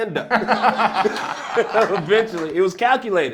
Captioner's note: laughter